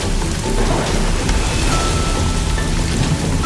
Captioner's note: thunder rolling